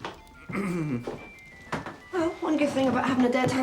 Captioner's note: throat clearing